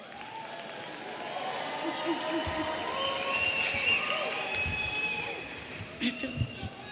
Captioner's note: audience cheering and applauding